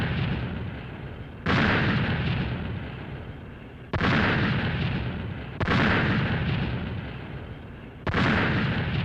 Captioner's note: explosions